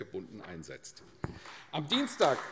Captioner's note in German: Beifall AfD